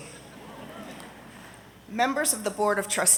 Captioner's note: audience laughing